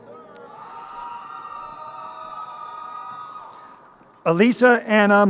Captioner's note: crowd cheering